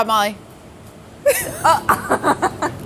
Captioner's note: laughter